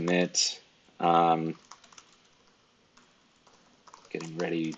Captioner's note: keyboard keys clicking